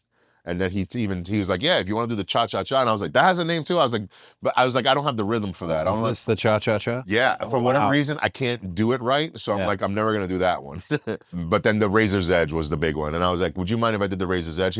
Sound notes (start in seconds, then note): 10.7 laugh